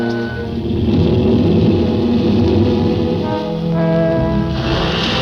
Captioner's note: alligator growling; alligator hissing; ominous music